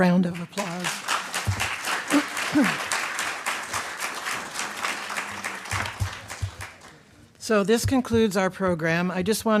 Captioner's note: applause